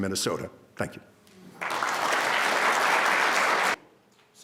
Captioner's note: crowd claps